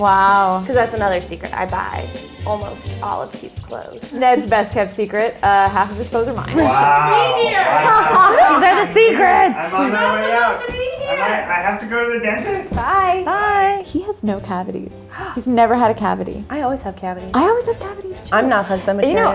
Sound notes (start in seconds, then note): 6.1 laughing; 15.1 gasps